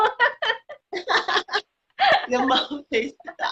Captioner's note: laughing